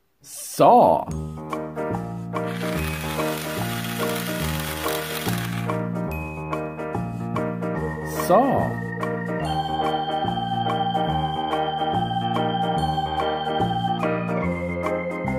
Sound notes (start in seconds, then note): 2.4 saw noise; 10.9 western music